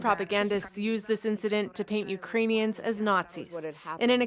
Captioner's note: speaking French